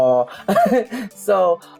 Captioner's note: laughs